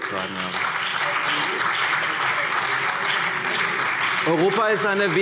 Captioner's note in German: Beifall CDU, BÜNDNIS 90/DIE GRÜNEN, SPD und Freie Demokraten